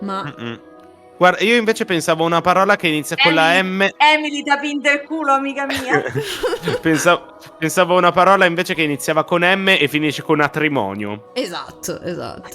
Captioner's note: laughs